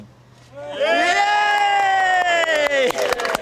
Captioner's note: all cheer